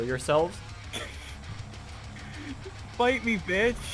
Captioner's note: laughing